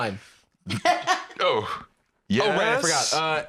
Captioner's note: laughs